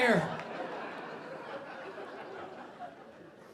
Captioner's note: audience laughing